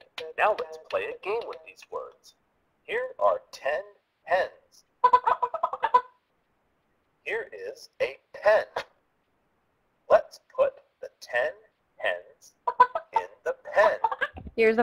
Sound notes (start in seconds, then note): 5.0 hens clucking